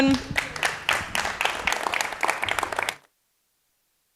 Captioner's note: audience clapping